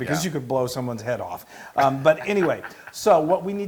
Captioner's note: laugh